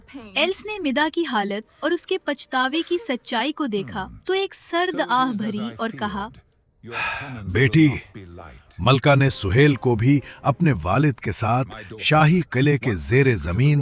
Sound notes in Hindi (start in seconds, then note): 6.8 गहरी सांस लेने की आवाज़